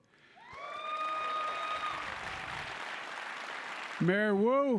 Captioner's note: applause